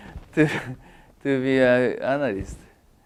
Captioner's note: laugh